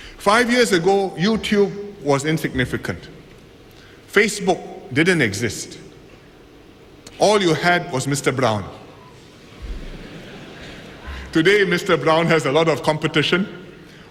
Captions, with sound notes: Five years ago YouTube was insignificant, Facebook did not exist; all you had was mrbrown. [Laughter] Today mrbrown has a lot of competition.